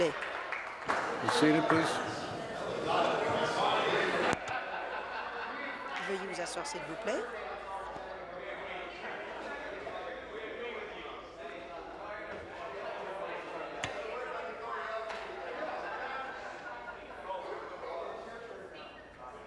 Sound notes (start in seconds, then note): 0.0 applause; 7.3 conversation din